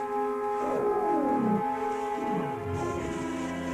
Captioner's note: roaring